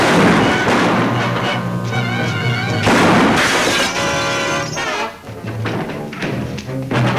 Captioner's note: speaker cut off by gun banging; gun bangs; exciting music